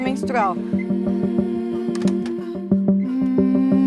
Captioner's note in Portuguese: Porta fecha